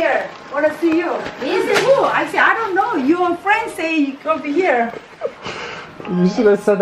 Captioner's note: laughs